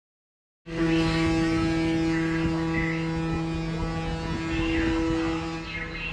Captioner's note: ferry horn blows